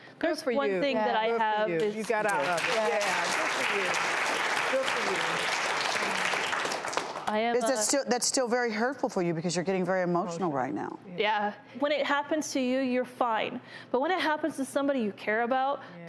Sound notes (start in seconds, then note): 2.0 applause